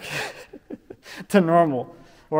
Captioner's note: chuckling